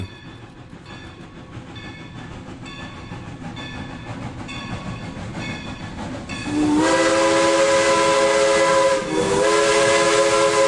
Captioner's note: train wissle